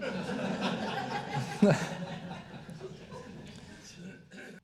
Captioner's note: all laughing